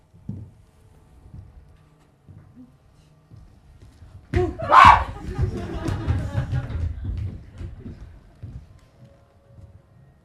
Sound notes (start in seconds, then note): 4.6 ROSENCRANTZ and GUILDENSTERN scream